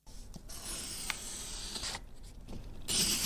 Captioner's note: pencil scratches